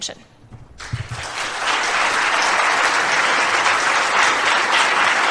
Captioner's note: applause